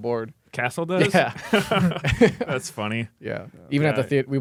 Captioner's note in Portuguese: risos